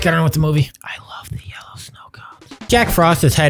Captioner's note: whispering